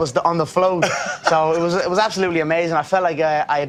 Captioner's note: chuckles